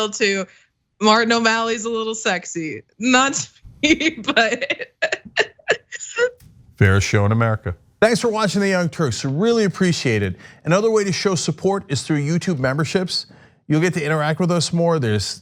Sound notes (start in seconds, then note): 3.8 laugh